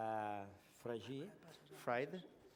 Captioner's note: non-english